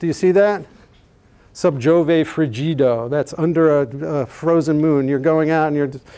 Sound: speaking latin

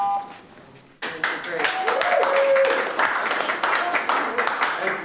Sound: audience applauds

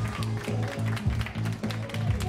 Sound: applause

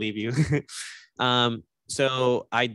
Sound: laughs

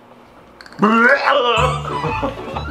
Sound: throwing up sounds

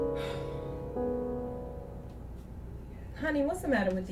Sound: Jeanette sighs

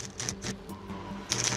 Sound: crackling

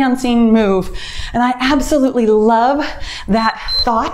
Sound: timer beeps

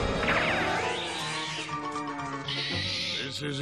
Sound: screeching

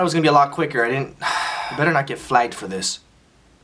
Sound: sighs

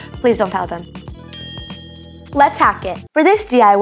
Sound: bell dinging

